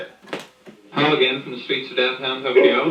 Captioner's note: voiceover